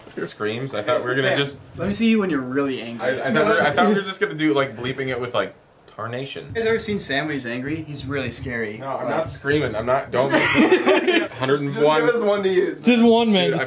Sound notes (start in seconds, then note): 10.2 laughter